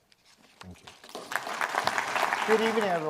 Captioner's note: audience applauds